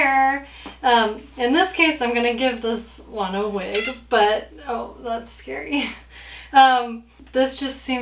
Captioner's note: doll cries